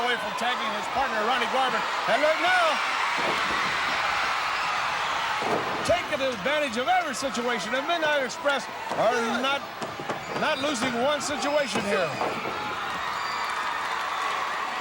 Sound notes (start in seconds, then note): 3.1 crowd cheers